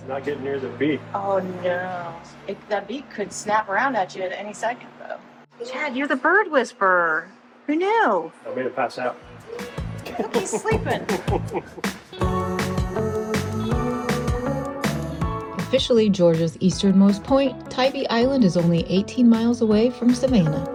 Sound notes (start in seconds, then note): 9.4 laughing; 12.3 upbeat music